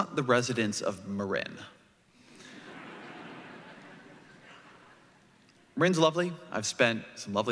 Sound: laughter

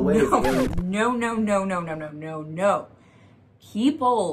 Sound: record scratch

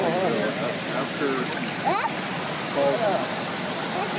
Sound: kids chattering

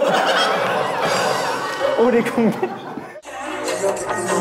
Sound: they burst into laughter

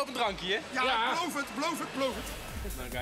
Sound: speaks in foreign language

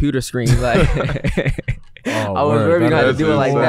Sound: laughing

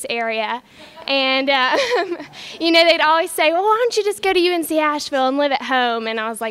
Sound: laughs

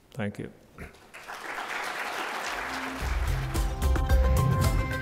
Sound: applause; upbeat music

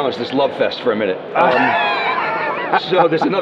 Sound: laughs

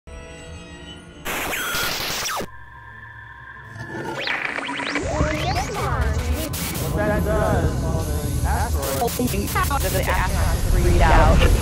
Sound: sound Effects

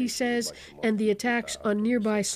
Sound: speaking alternate language

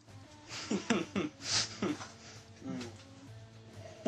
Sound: laughs

